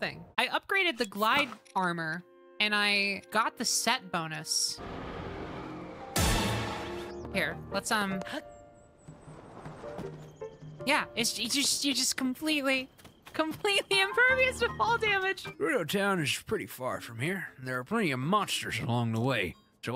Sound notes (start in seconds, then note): 6.1 Tony Hawk Stunt FX